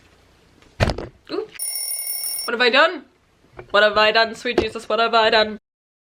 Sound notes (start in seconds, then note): 1.6 bicycle bell